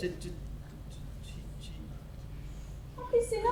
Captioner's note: stammers